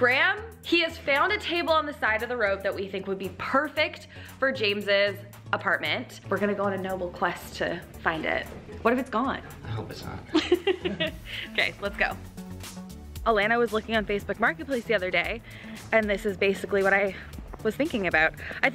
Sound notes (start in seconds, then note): 10.3 laughing